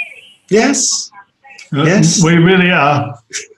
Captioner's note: woman speaks over phone